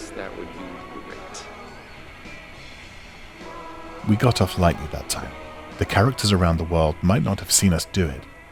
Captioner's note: none